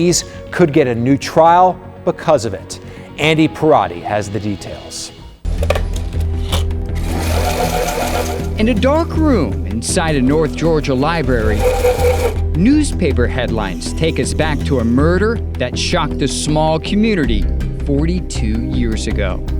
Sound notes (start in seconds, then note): 5.2 reel clicks; 5.6 handle clicks; 6.9 projector whirs; 11.4 projector whirs